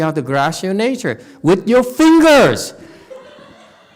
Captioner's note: sighs